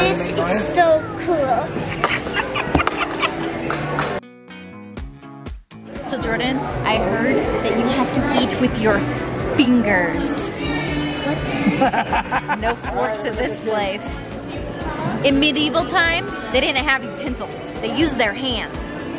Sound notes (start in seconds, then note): 1.8 laughing; 4.6 upbeat music; 11.5 laughing